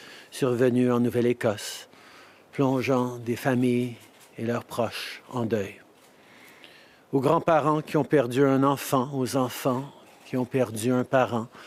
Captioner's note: speaking French